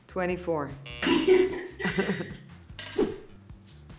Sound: laughing

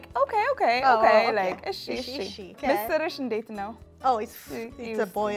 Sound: speaking Amharic

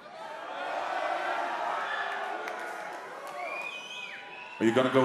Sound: audience cheering

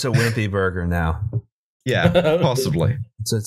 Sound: laughter

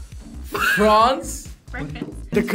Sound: laughing

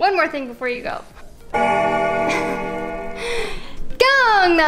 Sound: bell Ringing

